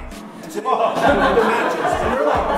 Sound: laughing

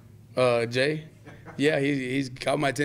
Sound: laughing

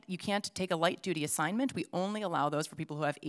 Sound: none

